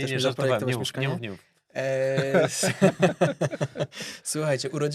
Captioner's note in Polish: śmiech